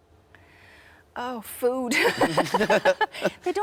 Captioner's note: laughs